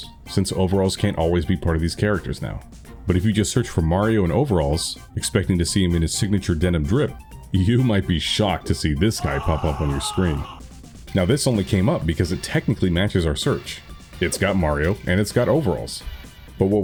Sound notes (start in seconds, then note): 9.1 distant screams